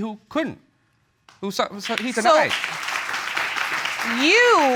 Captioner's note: audience clapping